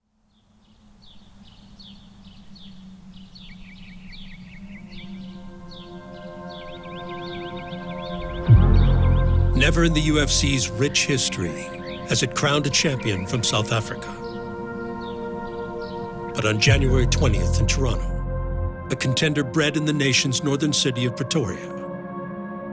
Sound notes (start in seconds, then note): 1.7 birds singing; 3.5 tranquil music